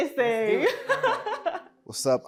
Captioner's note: laughs